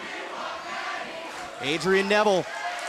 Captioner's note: fans chanting